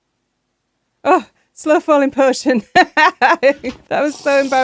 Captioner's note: laughing